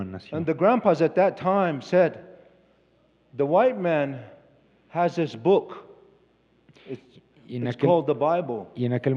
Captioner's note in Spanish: Expositor habla en inglés